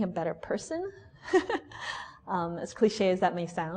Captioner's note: laughs